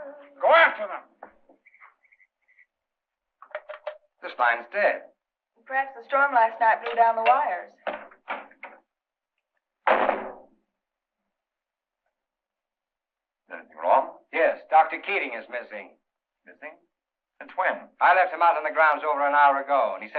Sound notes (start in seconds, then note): 9.8 door closes